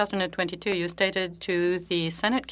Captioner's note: speaking French